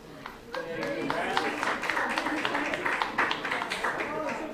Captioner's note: applause